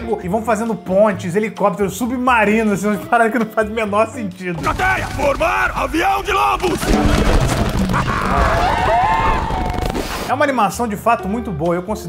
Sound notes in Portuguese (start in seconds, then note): 6.4 gritos; 7.8 gritos